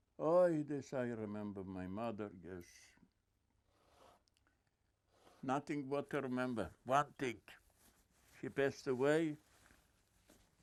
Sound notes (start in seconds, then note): 5.0 wiping nose